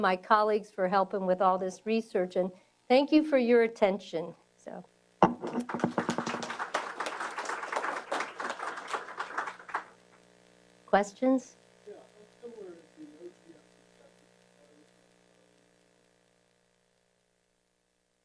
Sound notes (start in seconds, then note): 5.3 applause